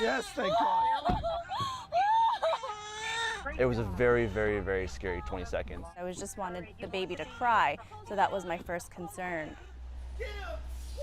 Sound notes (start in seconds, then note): 7.0 baby crying